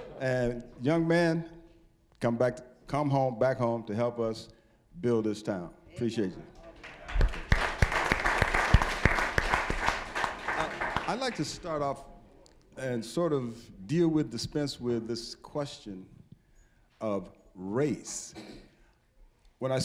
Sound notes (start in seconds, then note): 6.7 applause